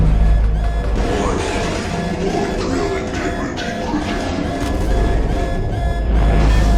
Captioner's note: powers down